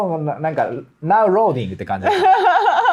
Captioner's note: laughs